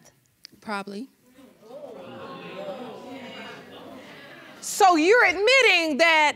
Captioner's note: audience exclaiming